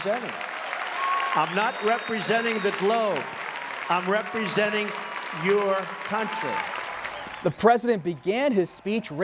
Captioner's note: cheers, applause